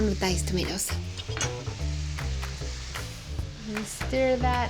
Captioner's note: sizzling